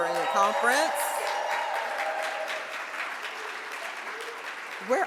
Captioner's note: audience cheers